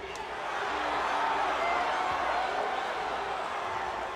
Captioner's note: crowd cheering